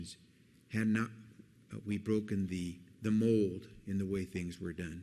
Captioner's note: none